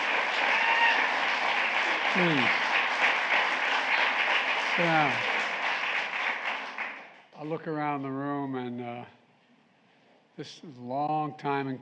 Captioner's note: applause